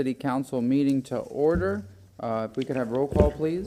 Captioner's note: gavel sounding